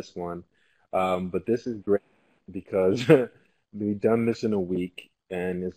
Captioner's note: laugh